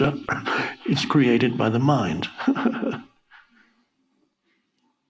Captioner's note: giggles